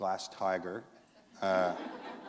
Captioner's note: laughter